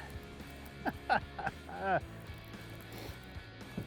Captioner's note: laughs